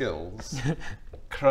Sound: doubtful laugh

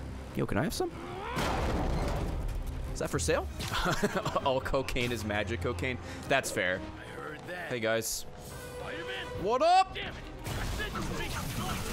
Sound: laughs

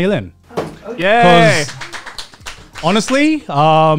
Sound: clapping

